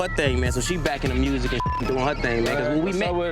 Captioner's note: beep